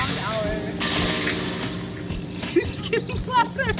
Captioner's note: extremely loud metal bangs